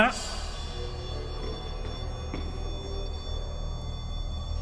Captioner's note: REM-pod beeping